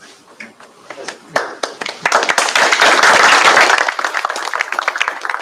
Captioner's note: applause